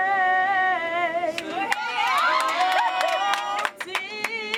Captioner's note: applause